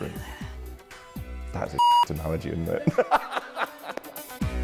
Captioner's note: laughs